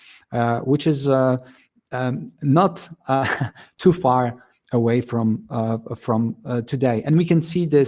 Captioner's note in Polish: śmiech